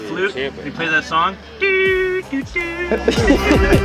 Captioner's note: making flute noises; laughing